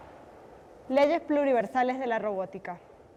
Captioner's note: non-english speech